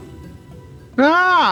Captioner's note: laughs